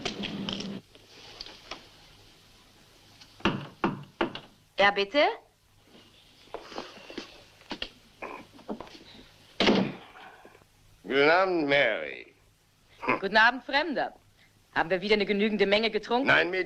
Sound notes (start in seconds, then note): 3.4 knocking